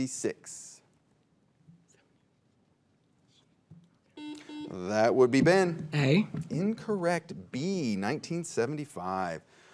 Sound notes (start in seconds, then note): 1.4 teammates whisper; 4.2 buzzer beeps